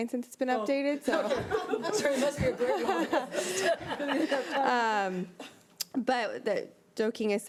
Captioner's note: board members laughing